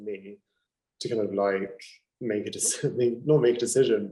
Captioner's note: chuckling